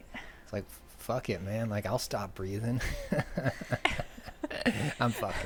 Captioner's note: laughing